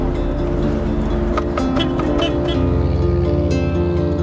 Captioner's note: honk